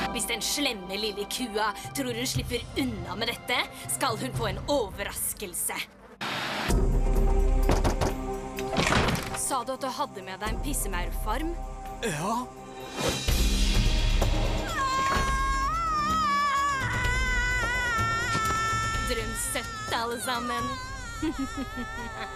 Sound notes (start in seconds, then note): 14.6 heather screams; 19.1 giggles